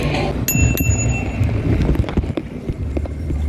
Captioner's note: bell